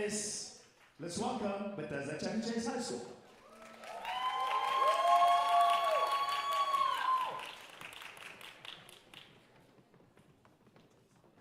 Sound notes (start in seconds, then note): 3.3 audience cheering and applauding